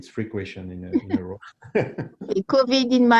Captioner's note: laughs